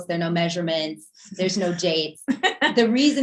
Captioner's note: laughing